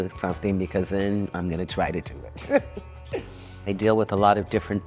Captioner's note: laughs